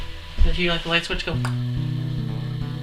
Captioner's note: imitates sound